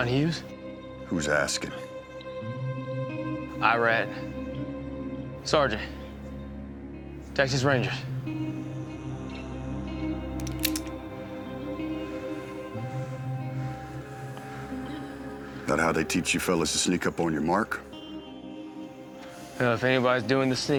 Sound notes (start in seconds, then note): 9.7 tense music; 10.3 uncocks gun